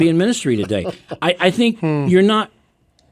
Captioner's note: laughing